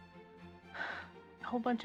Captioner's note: sigh